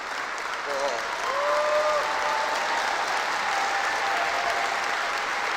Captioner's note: applause